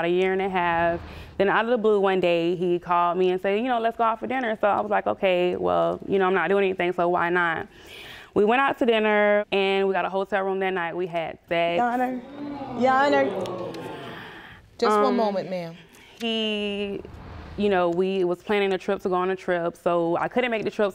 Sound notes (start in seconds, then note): 12.1 audience gasps